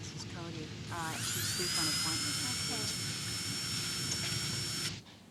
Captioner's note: drill buzzes